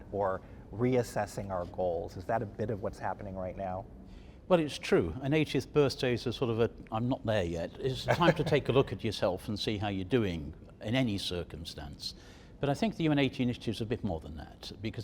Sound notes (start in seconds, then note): 8.0 laughs